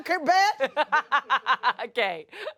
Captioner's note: laughs